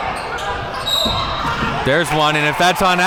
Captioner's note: whistle blows